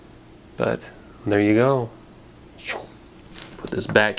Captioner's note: flying noise